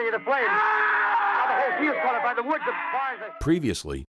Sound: man yelling

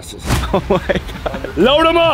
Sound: laughing

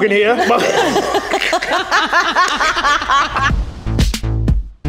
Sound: everyone laughs; upbeat music

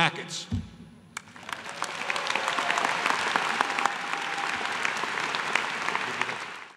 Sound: applause

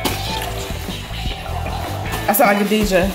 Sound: record scratching

